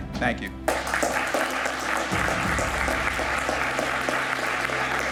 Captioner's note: audience applauding